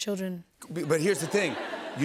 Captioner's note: laughter